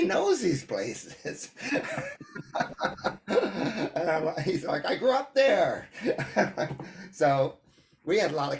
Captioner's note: laughs